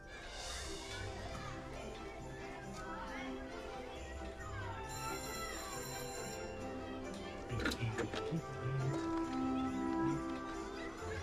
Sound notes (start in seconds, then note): 0.1 children chattering; 4.5 school bell ringing; 8.1 humming